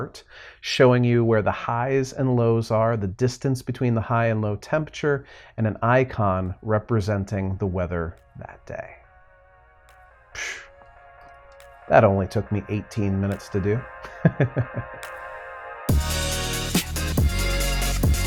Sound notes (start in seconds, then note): 14.0 laughs; 15.5 upbeat music